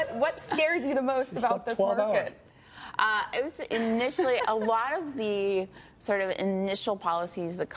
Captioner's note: laughter